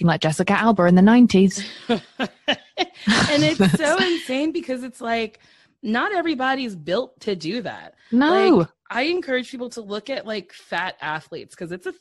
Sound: laughter

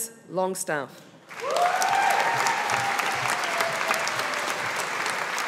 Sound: audience applauding

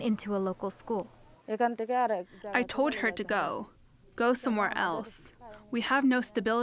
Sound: through translator

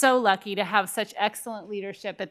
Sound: none

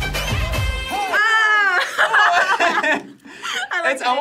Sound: upbeat music; both laugh

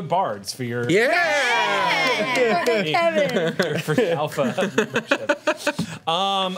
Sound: group cheers; overlapping chatter

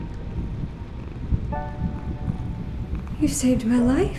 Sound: cat purring

